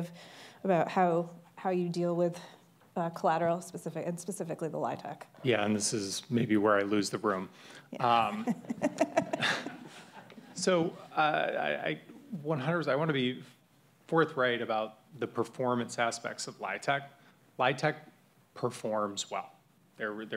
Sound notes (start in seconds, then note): 8.4 audience laughs